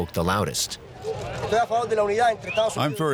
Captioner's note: speaking in Spanish